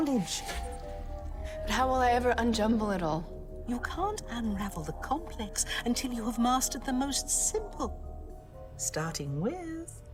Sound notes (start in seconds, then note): none